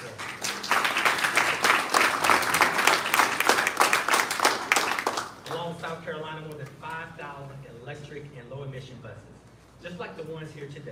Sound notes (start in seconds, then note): 1.8 applause